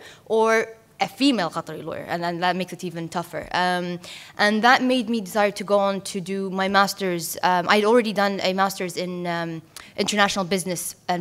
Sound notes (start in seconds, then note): none